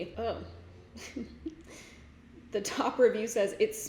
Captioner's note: giggles